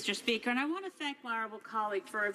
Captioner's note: speaking French